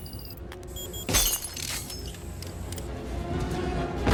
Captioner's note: beeping; glass breaking